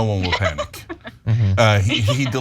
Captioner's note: laugh